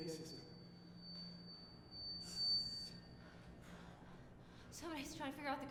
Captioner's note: high pitched speaker feedback